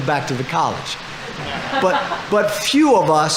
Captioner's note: audience laughing